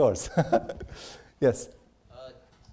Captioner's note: laughs